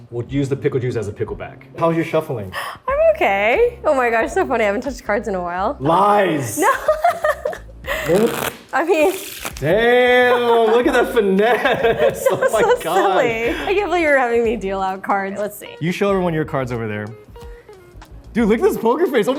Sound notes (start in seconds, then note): 6.6 Arden laughs; 8.0 cards shuffle; 10.0 laugh